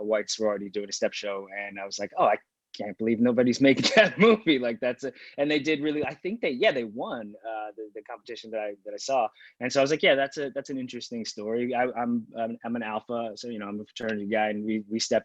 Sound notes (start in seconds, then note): 5.3 laughing